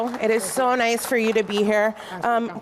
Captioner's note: applause